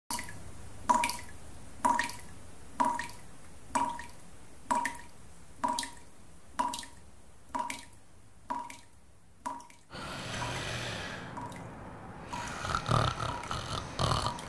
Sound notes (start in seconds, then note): 2.4 water dripping; 9.9 Jerri snoring